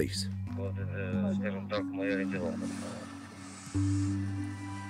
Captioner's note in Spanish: Audio hablado en ucraniano